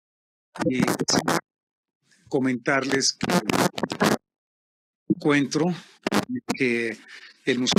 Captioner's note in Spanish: interferencia